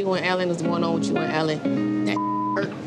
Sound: beep

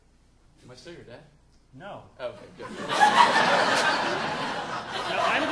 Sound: audience laughing

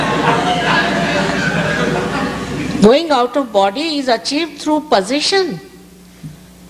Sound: laughter

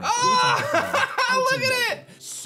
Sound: chuckles

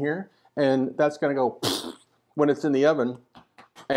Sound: funny noise

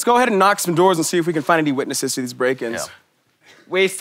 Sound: in a French accent

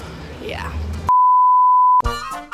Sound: beep

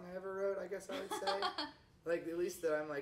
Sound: chuckles

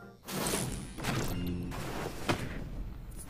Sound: whoosh

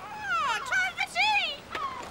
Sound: squawks

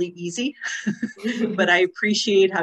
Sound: laughing

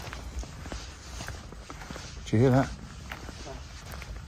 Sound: rustling sounds

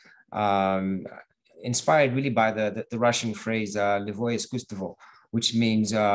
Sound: russian

